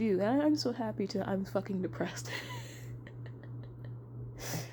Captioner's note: softly laughs